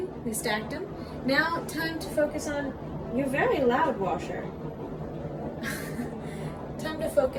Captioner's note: laughs